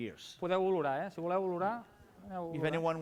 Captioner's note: non-english speech